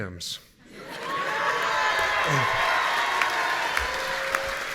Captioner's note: audience cheering